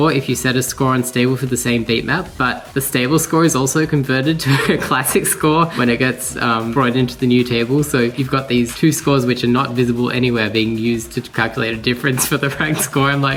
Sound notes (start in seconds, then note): 4.3 chuckles; 11.9 chortles